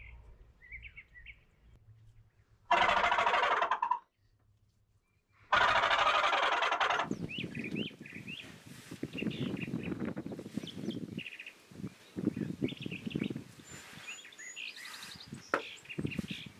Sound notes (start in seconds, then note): 2.7 imitates animal noises; 9.0 birds chirping